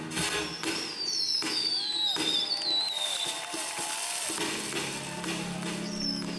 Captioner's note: fireworks bang and people cheer